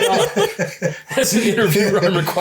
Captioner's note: laughs